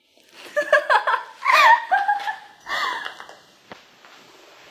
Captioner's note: 陰險的笑聲